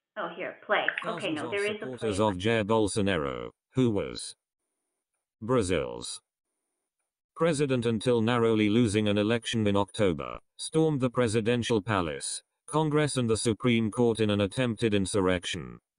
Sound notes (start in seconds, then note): 2.3 male synthetic voice